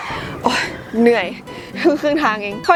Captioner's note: sigh